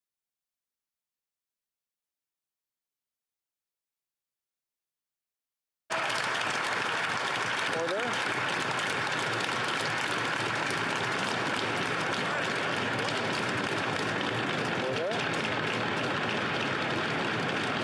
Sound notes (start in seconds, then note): 3.7 continued applause